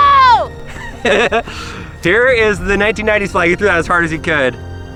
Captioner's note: laughs